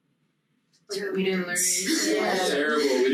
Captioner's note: group chattering